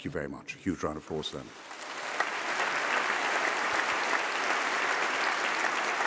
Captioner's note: applause